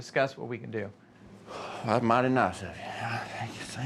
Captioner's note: sighs